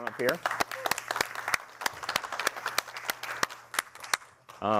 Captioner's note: applause